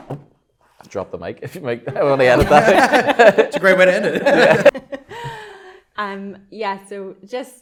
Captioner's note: laughs